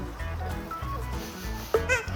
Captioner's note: sniff, sniff